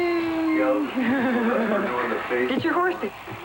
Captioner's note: laughs